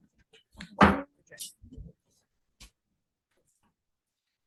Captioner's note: gavel bangs